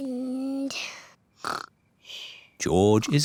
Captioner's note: snores